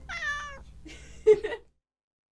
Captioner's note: cat meowing; laughing